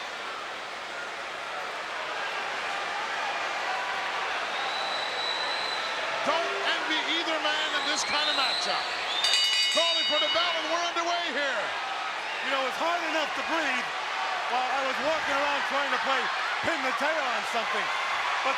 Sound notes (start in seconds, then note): 0.2 crowd cheering continues; 9.1 bell dinging